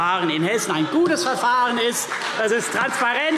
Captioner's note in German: Beifall CDU